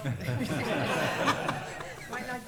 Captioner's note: laughter